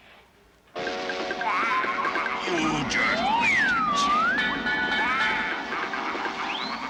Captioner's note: machine whirring; train whistle blowing